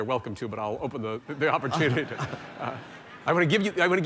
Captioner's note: laughter